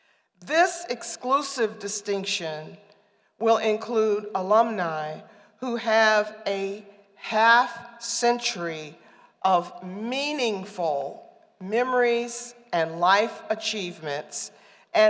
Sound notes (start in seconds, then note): none